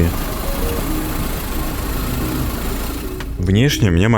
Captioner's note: engine running